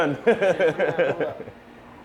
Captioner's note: laughing